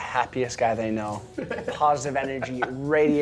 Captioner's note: laughing